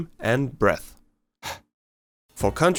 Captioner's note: soft breath